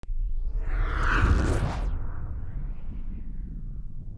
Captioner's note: whooshing intro